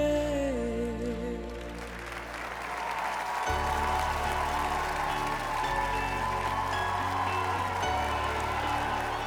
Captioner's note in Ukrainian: оплески